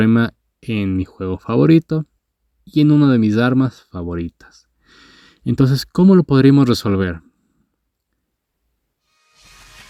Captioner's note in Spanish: Respiración profunda